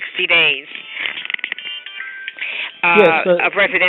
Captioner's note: cell phone ringing